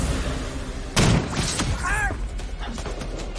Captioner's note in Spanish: Disparo